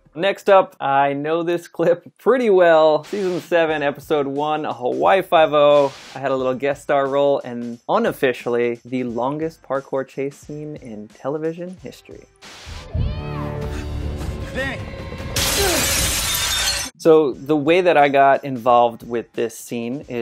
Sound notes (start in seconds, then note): 12.4 dramatic music; 15.3 glass shattering